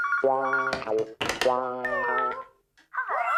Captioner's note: phone Ringing; clunk!